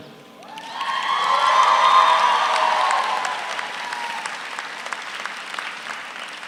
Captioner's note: audience applauds; audience cheers